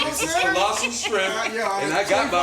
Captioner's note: laughing